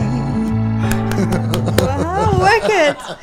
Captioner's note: claps; laughs